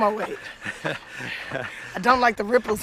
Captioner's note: laughter